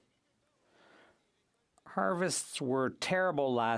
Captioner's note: speaking French